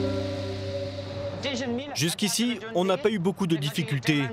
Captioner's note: dzongkha spoken audio